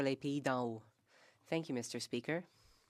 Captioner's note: speaking French